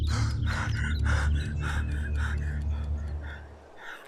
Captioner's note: sighs